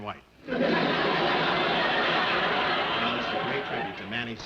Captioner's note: audience laughing